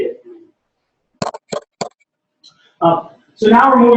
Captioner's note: pause